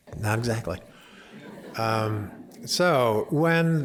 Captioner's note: laughter